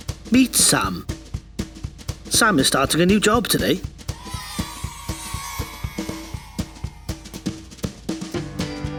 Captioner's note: children cheer